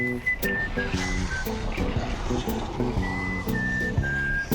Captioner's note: whooshing